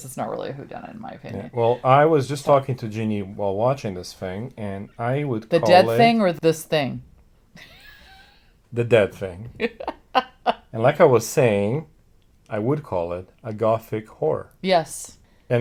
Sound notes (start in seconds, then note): 9.6 laughs